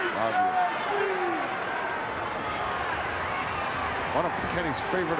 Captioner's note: crowd yelling